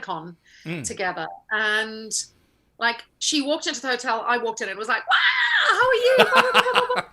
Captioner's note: scream